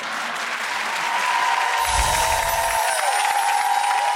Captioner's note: audience clapping